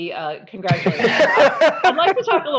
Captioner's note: laughter